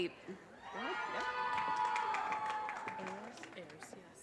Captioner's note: audience cheers and applause